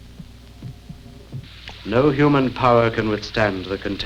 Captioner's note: none